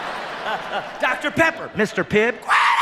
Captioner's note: screams